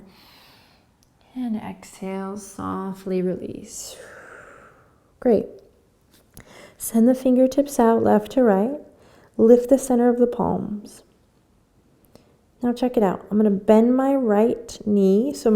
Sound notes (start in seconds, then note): 0.1 inhaling; 3.9 exhaling